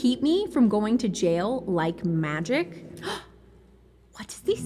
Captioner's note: gasp